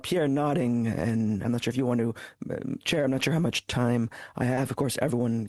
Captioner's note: speaking French